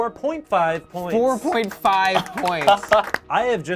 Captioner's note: group applauds